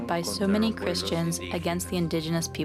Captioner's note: speaking Alternate Language